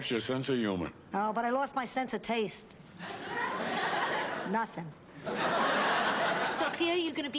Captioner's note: laughs